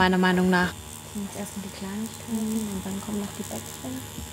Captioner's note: she continues to speak quietly